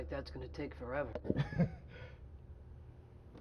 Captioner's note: laughs